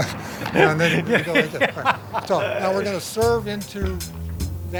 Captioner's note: laughter